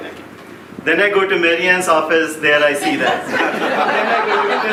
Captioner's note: laughing